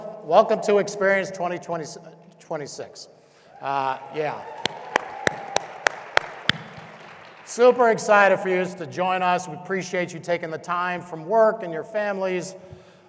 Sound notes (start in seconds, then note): 3.5 audience cheering; 3.6 audience applauding; 3.9 claps